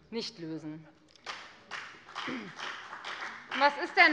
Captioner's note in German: Beifall bei der FDP